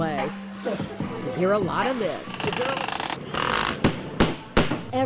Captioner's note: machinery Noise